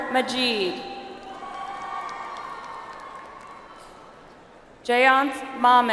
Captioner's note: audience applauds